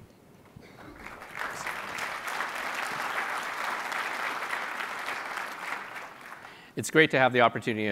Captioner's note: applause